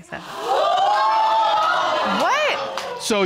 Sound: audience gasping

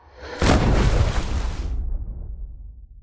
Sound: loud thud and splash

